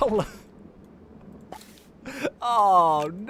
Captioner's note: laughs